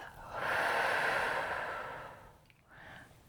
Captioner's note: exhales